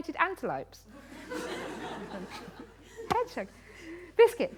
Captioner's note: laughter